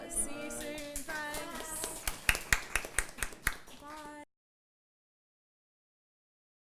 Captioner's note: clapping